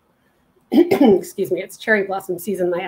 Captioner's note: clearing throat